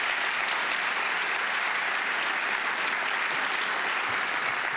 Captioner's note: applause